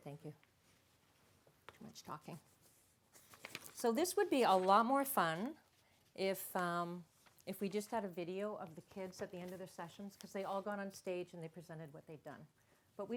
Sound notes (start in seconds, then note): none